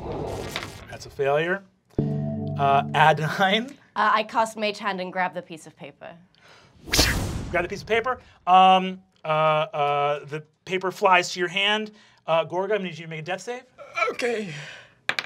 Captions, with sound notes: - That's a failure, Adaine? - I cast mage hand and grab the piece of paper. - (whips) You grab the piece of paper, the paper flies to your hand, Gorgug, I'm gonna need you to make a death save. - Okay. (dice clacking)